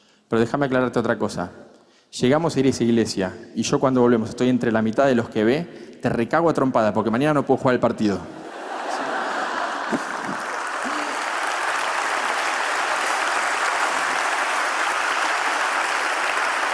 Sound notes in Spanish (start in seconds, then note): 8.3 Risas; 11.0 Aplausos